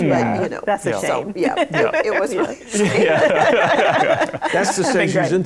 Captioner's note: laughter